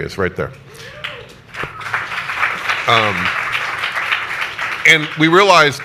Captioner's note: audience applauds